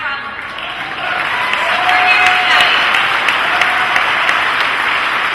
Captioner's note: applause and cheering